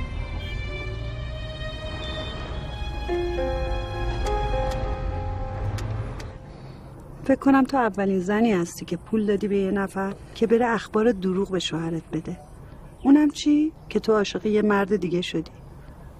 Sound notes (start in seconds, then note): 0.0 cinematic music; 4.0 dialling